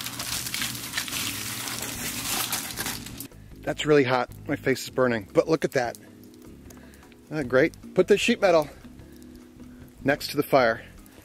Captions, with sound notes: (foil crackles) That's really hot. My face is burning. But look at that. (fire crackles) Isn't that great? Put the sheet metal next to the fire.